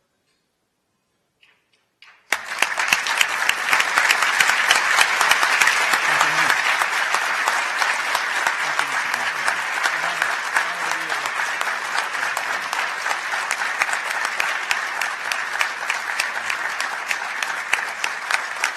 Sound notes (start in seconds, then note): 2.3 applause